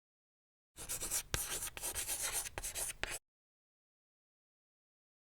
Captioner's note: chalk scratching